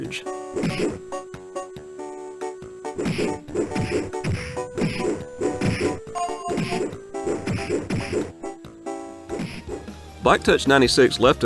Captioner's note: more game sounds